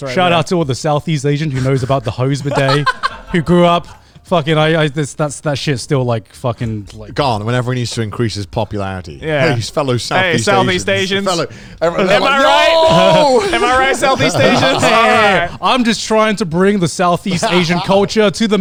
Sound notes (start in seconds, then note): 1.5 laughing; 11.9 all laughing